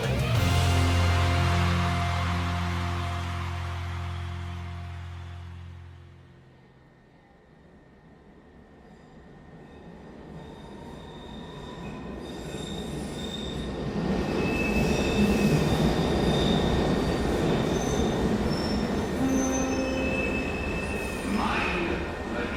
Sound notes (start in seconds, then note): 0.0 song concludes; 0.0 cheering; 8.4 metro brakes screeching; 19.3 breaks squeal